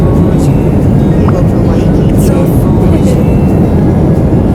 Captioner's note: laughs